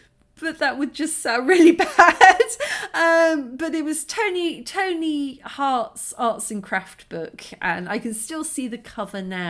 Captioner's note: laughing